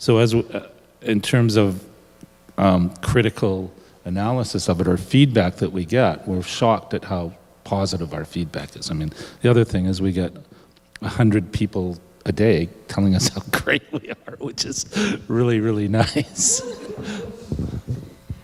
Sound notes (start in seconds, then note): 13.8 laughs